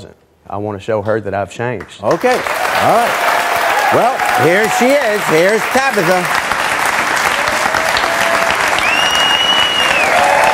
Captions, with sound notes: I want to show her that I've changed. - Okay, alright. Here she is, here's Tabitha! (audience clapping)